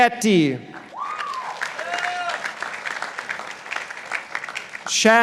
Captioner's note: participants applauding